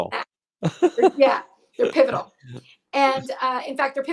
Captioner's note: laughs